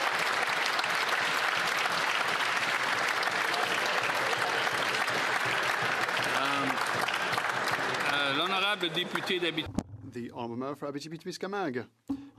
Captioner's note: applause